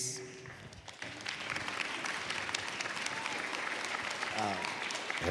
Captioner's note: applause